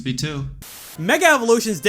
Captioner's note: static